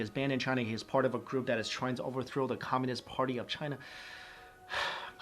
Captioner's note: sigh